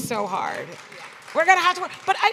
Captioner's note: applause